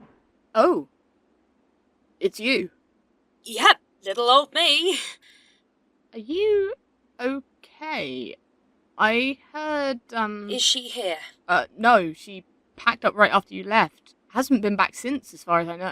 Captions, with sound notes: SAM Oh- it’s you. NYX (Breathless) Yep, little old me. SAM Are you… okay? I heard… Um... NYX Is she here? SAM Uh, no. She packed up right after you left. Hasn’t been back since, as far as I know.